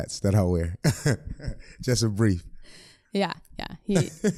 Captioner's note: laughs